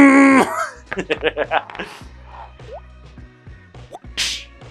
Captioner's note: laughs